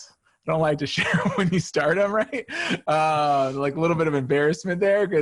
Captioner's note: laughs